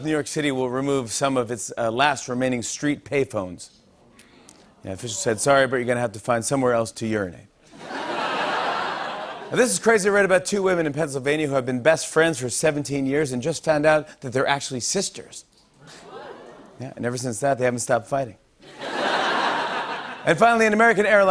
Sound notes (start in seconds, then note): 7.7 laughter; 18.6 laughter